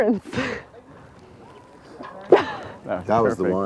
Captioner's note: laughter